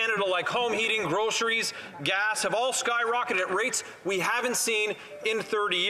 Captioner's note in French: voix de l'interprète